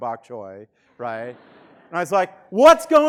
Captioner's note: students laughing